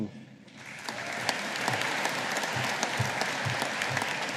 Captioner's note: audience applauding